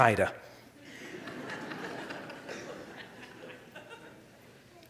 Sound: audience laughs

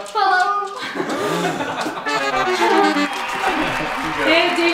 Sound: laughing

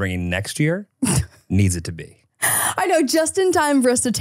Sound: laughs

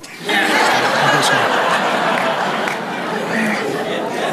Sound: congregation laughs

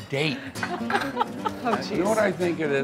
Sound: laughs

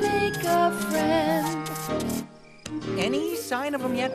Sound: light sparks

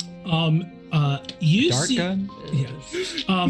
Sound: group chattering; group laughs

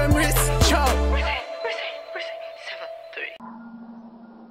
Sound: background adlibs

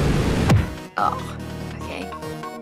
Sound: thump

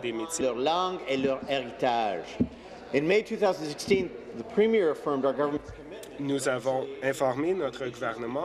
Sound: speaking in French

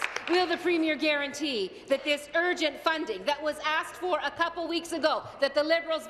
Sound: applause

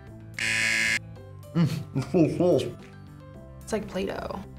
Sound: buzzer rings

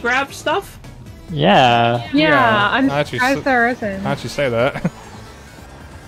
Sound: agreement sounds.wav

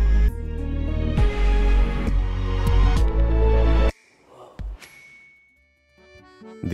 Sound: bell dings; gentle upbeat music

